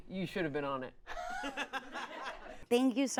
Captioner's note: audience laughs